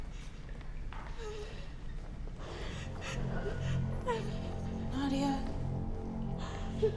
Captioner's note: Nadia cries; dark music